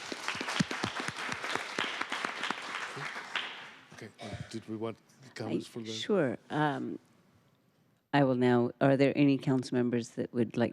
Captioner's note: applause